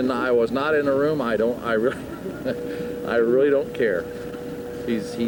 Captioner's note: laughs